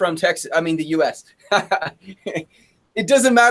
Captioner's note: chuckles